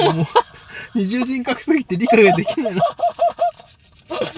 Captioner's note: laughs